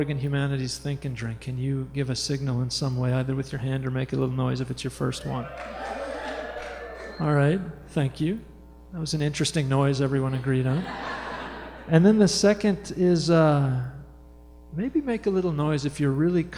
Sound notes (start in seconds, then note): 6.7 quiet cheering; 10.7 laughter